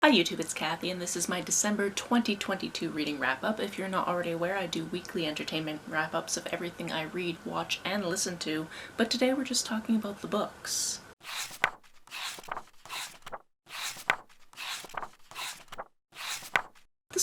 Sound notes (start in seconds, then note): 11.2 pages turning